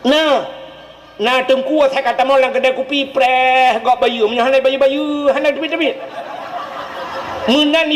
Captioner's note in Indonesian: tertawa